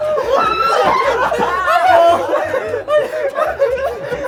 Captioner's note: dying with laughter